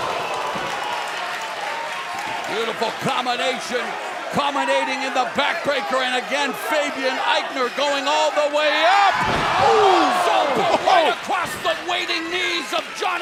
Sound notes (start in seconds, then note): 1.8 crowd cheering